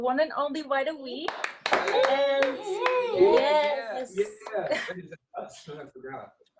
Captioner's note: applause